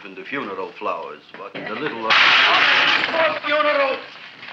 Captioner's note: pot clanging